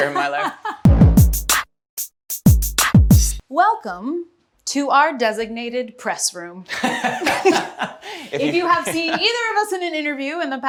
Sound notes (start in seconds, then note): 0.0 Emmy laughs; 0.1 upbeat hip hop music; 6.7 Daveed laughs